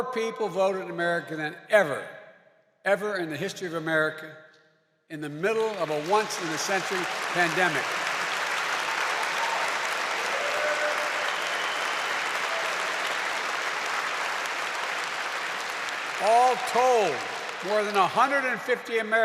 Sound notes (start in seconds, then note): 9.4 applause